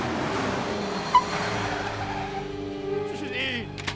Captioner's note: tires screeching